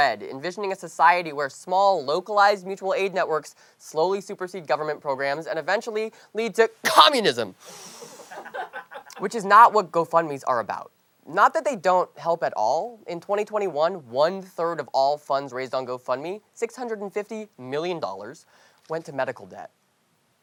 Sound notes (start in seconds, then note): 6.8 coughs